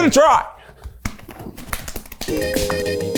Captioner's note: belly tapping; upbeat music